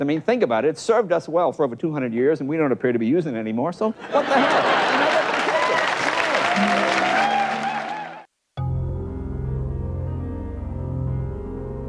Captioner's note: laughter and applause in background